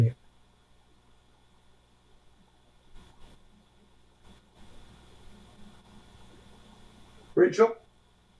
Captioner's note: pauses 6 seconds